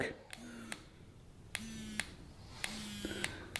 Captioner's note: buzzing